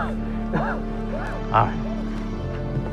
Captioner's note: Jimmy coughing; dramatic orchestral music